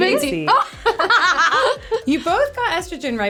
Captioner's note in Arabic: يضحك